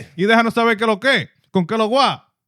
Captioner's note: speaking In Foreign Language